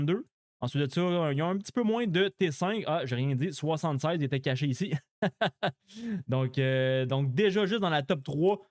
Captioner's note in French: rires